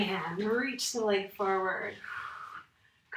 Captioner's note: exhales